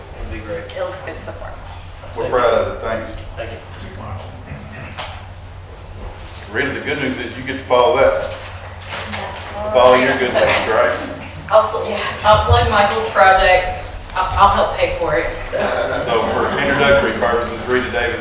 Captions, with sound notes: It'll be great. - It looks good so far. - We're proud of it, thanks. - Thank you. - Michael. - Rita, the good news is you get to follow that. - Yeah, all right, sir. - It's all your good news, that's correct? - Hopefully, yeah. I'll plug Michael's project. I'll help pay for it, so. (attendees chuckling) - So for introductory purposes, Rita Davis,